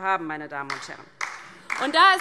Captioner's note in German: Beifall DIE LINKE